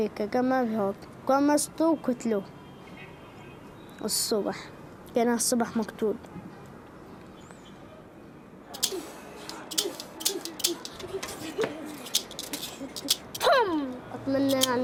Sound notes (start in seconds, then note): 8.7 imitating gun firing